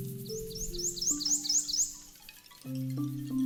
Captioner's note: birds chirping